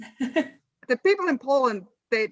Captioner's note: laughs